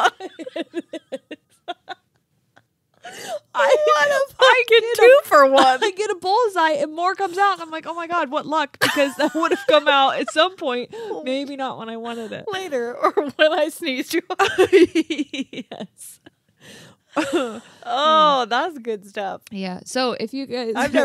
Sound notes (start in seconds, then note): 0.0 laughing; 14.6 laughing